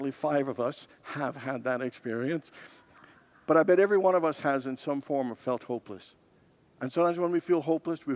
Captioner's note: congregants laugh